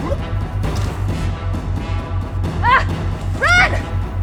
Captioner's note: thunks